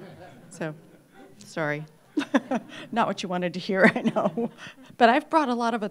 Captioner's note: laughs